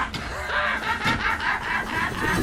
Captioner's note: laughing